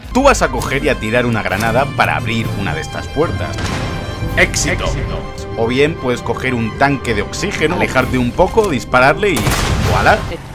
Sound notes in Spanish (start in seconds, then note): 3.4 Explosión; 9.3 Explosión